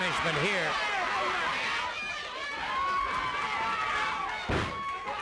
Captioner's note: crowd yelling